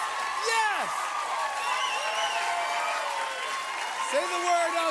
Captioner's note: cheers and applause